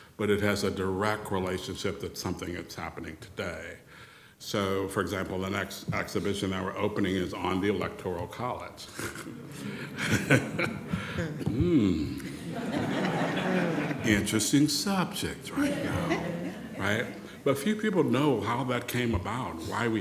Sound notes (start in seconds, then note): 8.9 laughs; 12.8 audience laughing